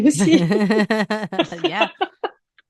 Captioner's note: laughing